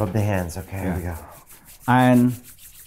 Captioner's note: hands rubbing